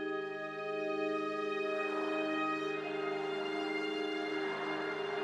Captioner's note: cars rushing past